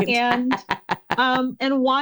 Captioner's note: laughs